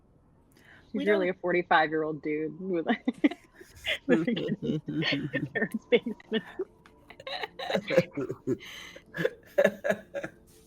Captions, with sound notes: - He's nearly a 45 year old dude (laughs) like living in his parents' basement. (all laughing)